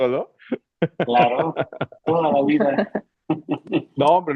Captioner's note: risas